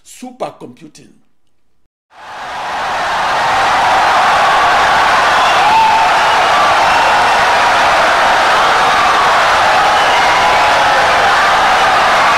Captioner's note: wild applause and cheering for 17 seconds